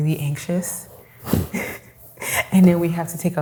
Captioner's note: laughs